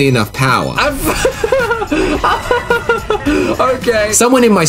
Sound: laughing

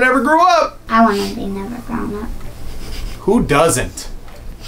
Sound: giggles

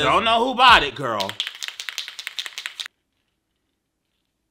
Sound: can rattles

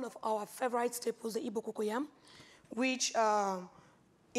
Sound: speaks foreign language

